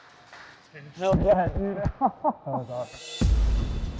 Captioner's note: laughs; dramatic music